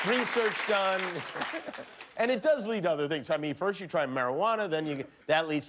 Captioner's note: applause